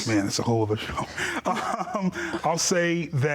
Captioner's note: laughing